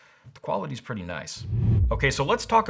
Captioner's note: whooshing